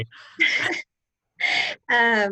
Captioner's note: laughter